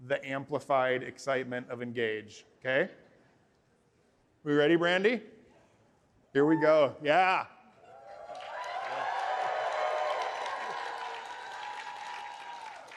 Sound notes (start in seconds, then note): 7.8 cheering